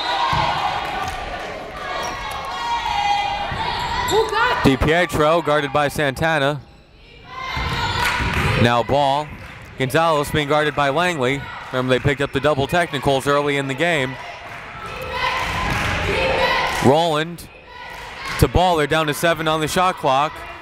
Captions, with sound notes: Di Pietro guarded by Santana, now Ball. Gonzalez being guarded by Langley. Remember they picked up the double technicals early in the game. (crowd chanting defense) Rolland to Ball, they're down to seven on the shot clock.